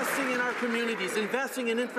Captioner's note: some Applause